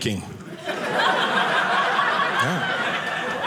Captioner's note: audience laughing